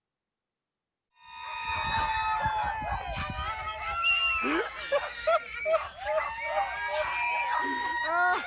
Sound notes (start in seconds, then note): 1.2 crowd cheering; 4.4 laughing